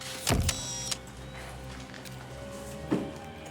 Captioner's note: camera clicks